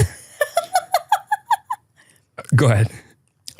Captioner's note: laughing